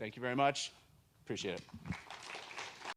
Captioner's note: audience clapping